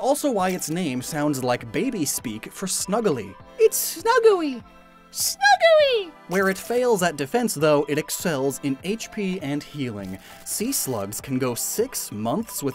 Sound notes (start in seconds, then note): 3.1 high pitched voice